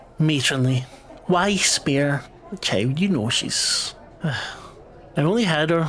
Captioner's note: exasperated sigh